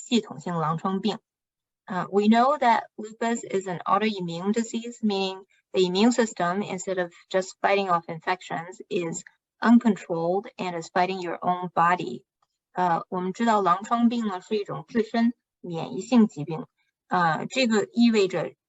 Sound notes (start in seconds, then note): 8.8 speaking chinese